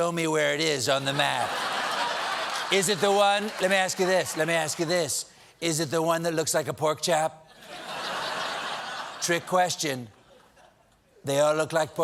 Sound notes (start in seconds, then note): 1.1 laughter; 7.5 laughter